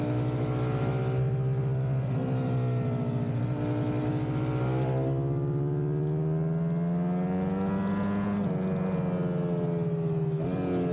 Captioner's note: engine roaring